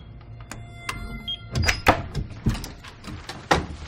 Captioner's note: door opening